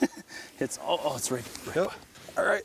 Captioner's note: laughs